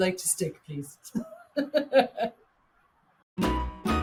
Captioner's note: laughing; upbeat ambient music